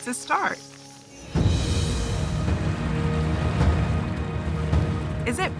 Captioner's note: waves churning